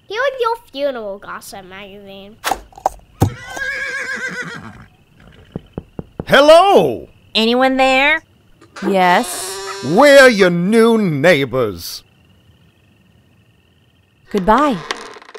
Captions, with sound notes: Here's your funeral gossip magazine. (horse neighs) (door knock) - Hello? - Anyone there? - Yes? - We're your new neighbors. - Goodbye.